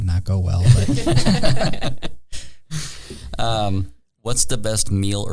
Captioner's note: all laughing